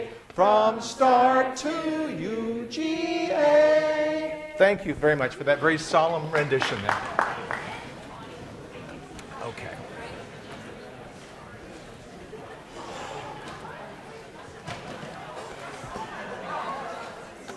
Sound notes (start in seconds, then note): 6.2 applauding; 8.2 students talking